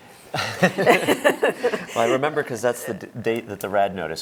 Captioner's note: laughter